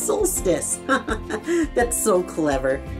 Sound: giggling

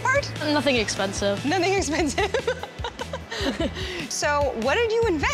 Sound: laughs

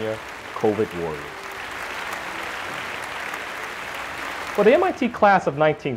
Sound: applause

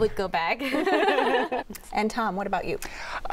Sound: laughter

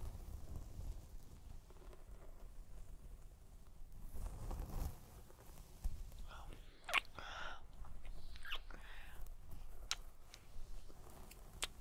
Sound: kiss

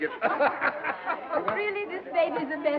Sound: laughing

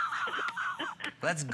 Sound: laughter

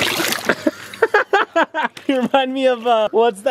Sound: laughs

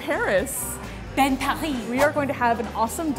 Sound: in french accent

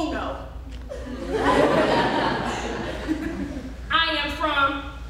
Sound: audience laughing

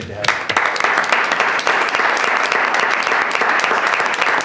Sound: audience applauds

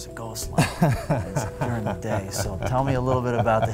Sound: laughing

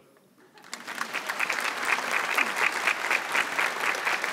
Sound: audience applauds

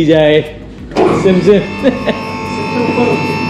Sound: laughs

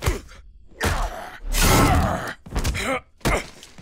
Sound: grunting

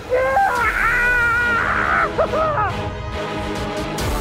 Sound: shrieking

